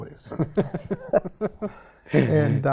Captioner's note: laughing